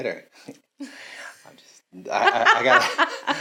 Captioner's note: laughs